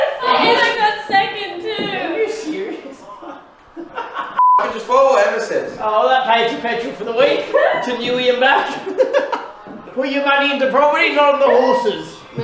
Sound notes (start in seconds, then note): 3.8 laughs; 8.5 laughs